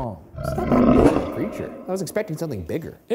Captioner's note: animal growls